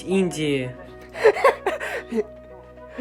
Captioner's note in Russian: смех